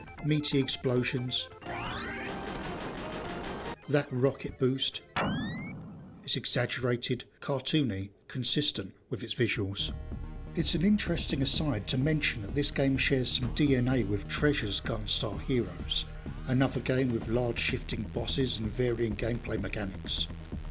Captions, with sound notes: meaty explosions, [SEVERAL EXPLOSIONS] that rocket boost. [ROCKET WHOOSH] It's exaggerated, cartoony, consistent with its visuals. It's an interesting aside to mention that this game shares some DNA with Treasure's Gunstar Heroes, another game with large shifting bosses and varying gameplay mechanics.